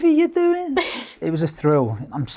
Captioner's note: laughing